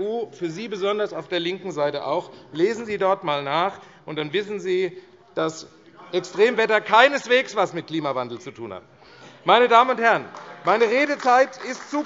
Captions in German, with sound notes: und besonders für Sie auf der linken Seite. Lesen Sie dort einmal nach - und dann wissen Sie, [Unruhe BÜNDNIS 90/DIE GRÜNEN, SPD und DIE LINKE] dass Extremwetter keineswegs etwas mit Klimawandel zu tun hat. [Beifall AfD - Lachen und Zurufe DIE LINKE] Meine Damen und Herren, meine Redezeit ist zu kurz,